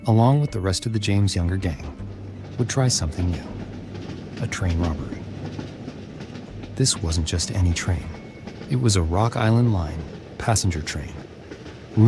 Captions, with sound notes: along with the rest of the James Younger gang, would try something new, a train robbery. (train tracks reverberating) This wasn't just any train, it was a Rock Island Line passenger train,